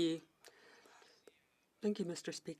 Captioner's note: speaking French